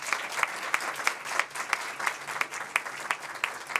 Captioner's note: applause